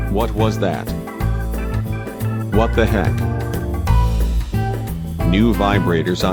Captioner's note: none